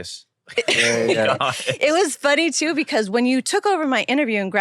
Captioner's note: laughs